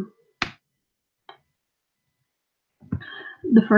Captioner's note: awkward pause